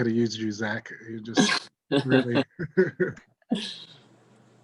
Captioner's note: laughs